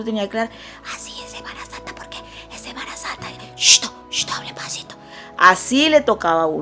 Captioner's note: whispering voice